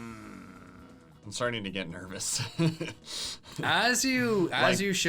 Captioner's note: laughs